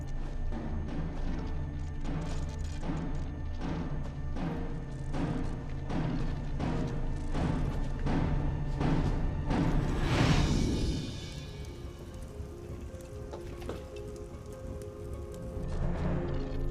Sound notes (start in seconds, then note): 0.1 suspenseful music; 10.6 fire crackling; 12.9 ominous tempo music